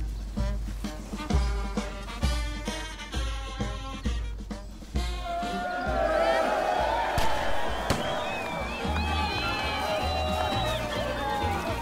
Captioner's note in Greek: χειροκρότημα